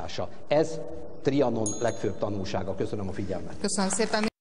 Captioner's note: applause